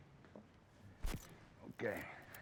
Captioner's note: camera shutter clicks